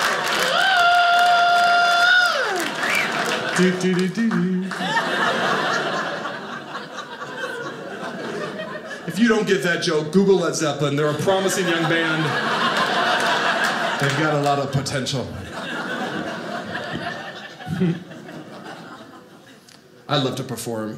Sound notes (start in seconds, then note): 0.0 audience clapping; 0.2 mimics Rock music song; 4.7 audience laughing; 12.2 audience laughing